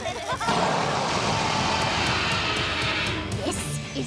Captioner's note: laughter; roars